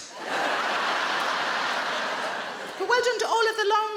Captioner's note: audience laughing